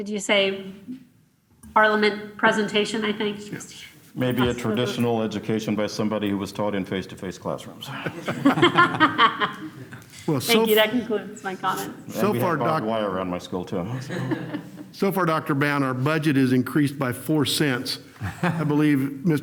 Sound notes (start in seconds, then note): 7.8 laughter